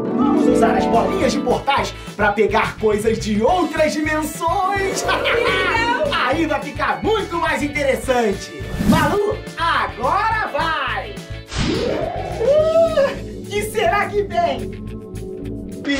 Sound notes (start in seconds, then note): 4.7 laughs; 11.8 exclaims